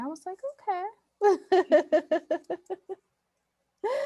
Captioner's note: laughs